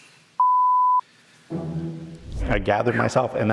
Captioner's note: beep